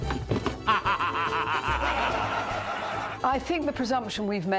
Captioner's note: laughing